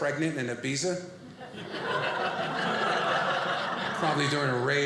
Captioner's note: audience laughing